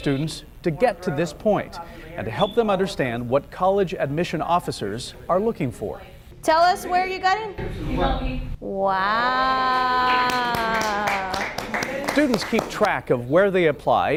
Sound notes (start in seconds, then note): 10.0 clapping